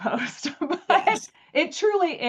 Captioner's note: laughs